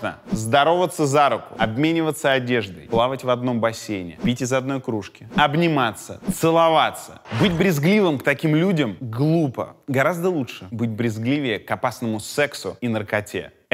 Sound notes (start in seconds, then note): none